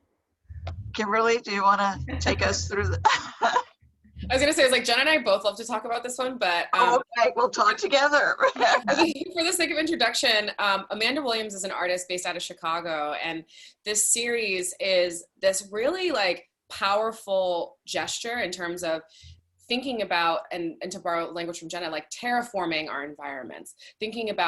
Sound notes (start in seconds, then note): 2.0 laughs; 8.3 laughs